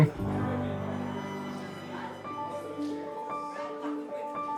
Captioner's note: people talking